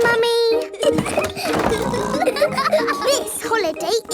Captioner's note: laughing and snorting